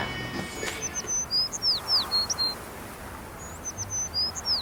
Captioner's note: birds chirping